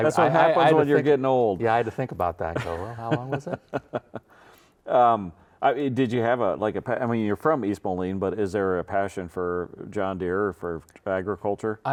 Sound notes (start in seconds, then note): 2.5 laughs